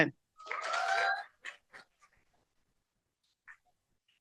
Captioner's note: cheering